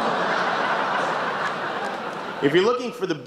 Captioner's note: laughter